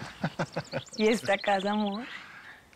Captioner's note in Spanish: Risas